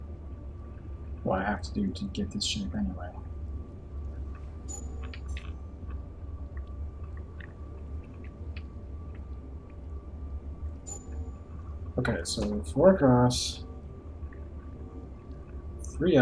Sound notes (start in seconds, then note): none